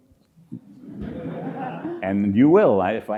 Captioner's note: audience laughs